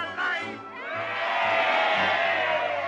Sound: cheering

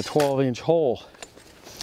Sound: sound of scraping

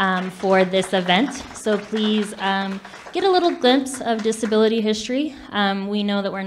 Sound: public clapping

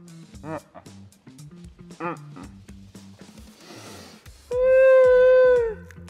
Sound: groaning

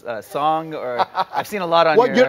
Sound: laughing

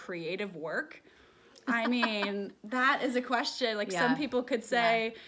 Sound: laughs

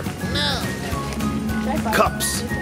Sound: cartoon Voice

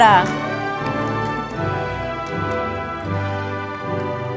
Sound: audience applauding

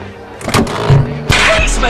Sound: clunk!; rubber stretch; whip!

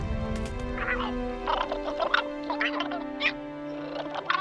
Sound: chattering

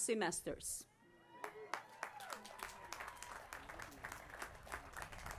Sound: applause

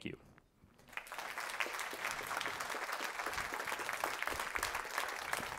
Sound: applause

